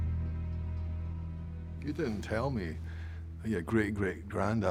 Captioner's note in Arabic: لكنة اسكتلندية